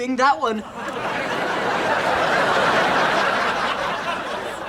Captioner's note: audience laughs